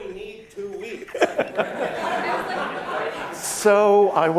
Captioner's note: laughter